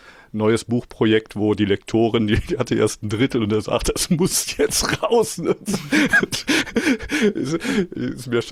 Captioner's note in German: gelächter